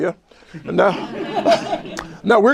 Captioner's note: laughter